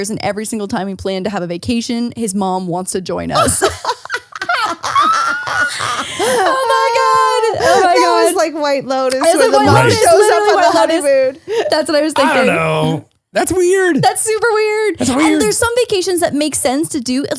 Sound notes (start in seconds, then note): 3.3 laughing